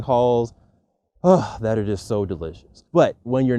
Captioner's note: exhales